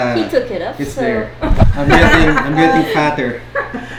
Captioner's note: laughs